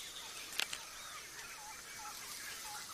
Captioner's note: monkey gnawing